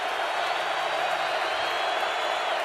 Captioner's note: crowd cheering